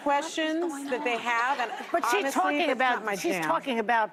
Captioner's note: laughter